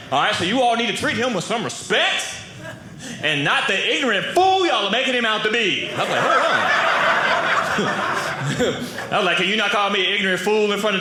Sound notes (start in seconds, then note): 5.8 audience laughing